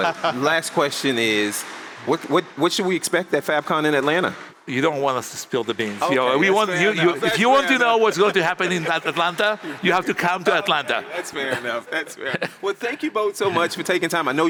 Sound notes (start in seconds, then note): 0.0 laughs; 11.1 laughs